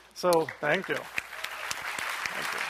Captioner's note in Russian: аплодисменты